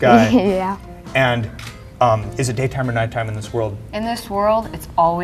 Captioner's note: laugh